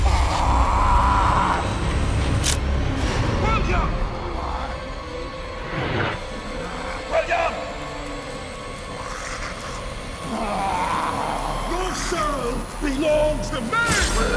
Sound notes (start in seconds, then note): 0.1 William screams; 4.7 tense music; 8.4 William growls